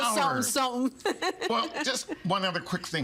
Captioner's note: laughing